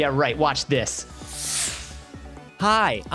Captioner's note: whoosh